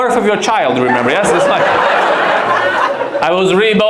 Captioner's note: audience laughs